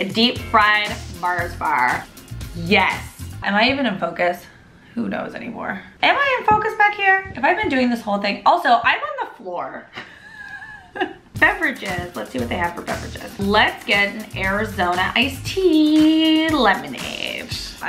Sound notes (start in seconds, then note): 10.0 laughs